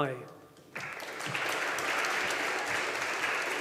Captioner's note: audience applauding